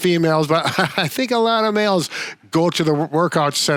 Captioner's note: laughs